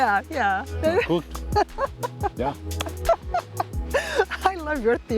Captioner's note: laughs